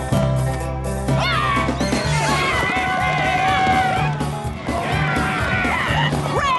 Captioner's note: battle cries